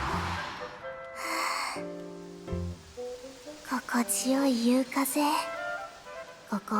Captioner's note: sigh